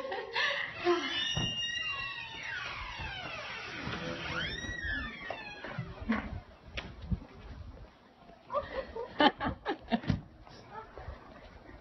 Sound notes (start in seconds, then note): 0.0 laughing; 3.7 door creaking open